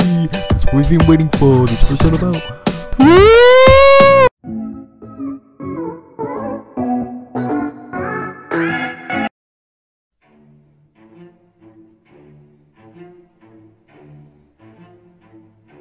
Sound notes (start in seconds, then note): 9.5 silence